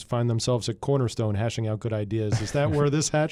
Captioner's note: chuckles